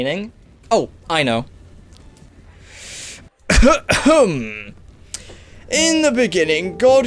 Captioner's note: clears throat